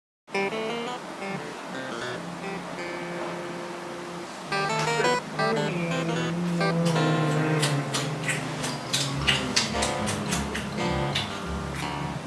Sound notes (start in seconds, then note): 6.4 kisses